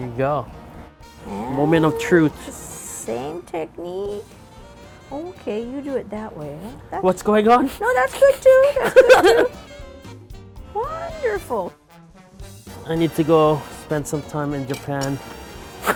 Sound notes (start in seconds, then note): 7.6 laughing